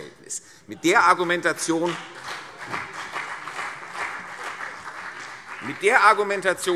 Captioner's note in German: Beifall CDU und vereinzelt BÜNDNIS 90/DIE GRÜNEN